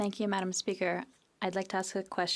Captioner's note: speaking French